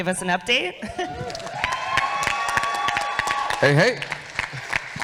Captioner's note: audience cheers